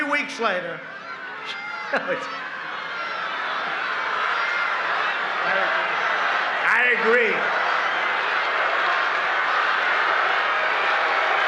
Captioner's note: laughs